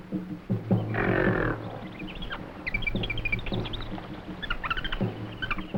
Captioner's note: jungle animals chattering